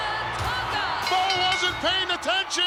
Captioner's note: bell rings